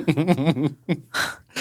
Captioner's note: laughing